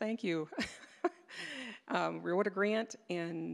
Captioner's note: laughing